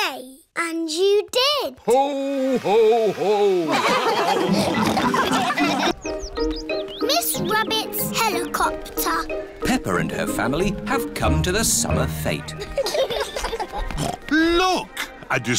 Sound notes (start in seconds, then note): 3.6 all laugh; 12.6 laughter; 13.8 snorts